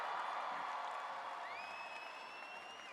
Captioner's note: cheering